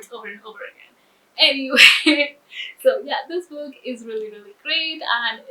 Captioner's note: laughs